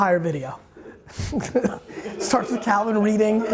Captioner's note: laughs